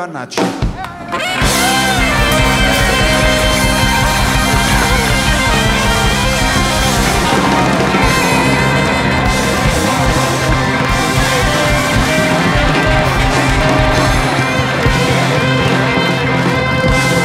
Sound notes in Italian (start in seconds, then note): 3.1 Applauso